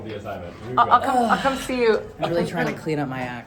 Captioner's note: sighs